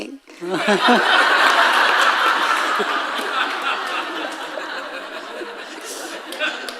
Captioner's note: audience laughing